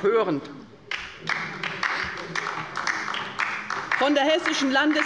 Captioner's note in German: Beifall bei der LINKEN